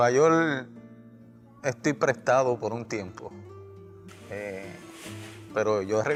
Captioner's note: speaking spanish